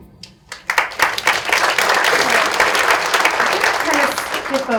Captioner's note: audience clapping